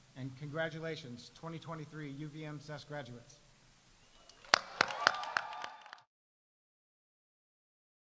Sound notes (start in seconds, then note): 4.2 audience cheering; 4.2 audience applauding